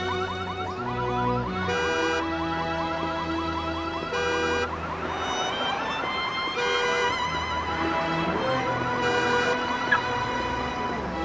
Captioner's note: car alarm